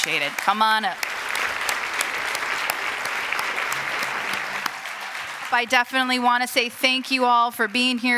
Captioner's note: applause